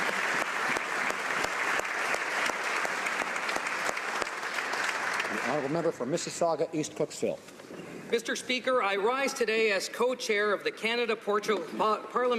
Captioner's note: applause